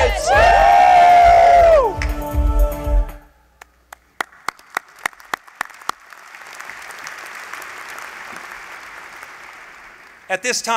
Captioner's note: applause